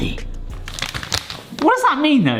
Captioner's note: plastic crinkling